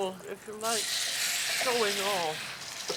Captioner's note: sizzling